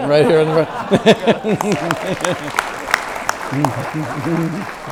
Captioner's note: audience claps